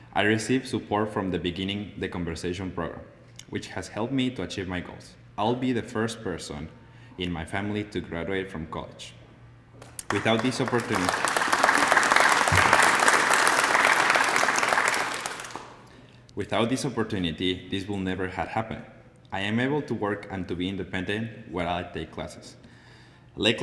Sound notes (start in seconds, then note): 9.8 applause